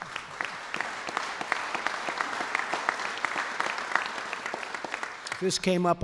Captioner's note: applause